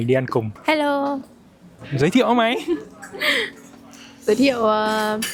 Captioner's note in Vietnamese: tiếng cười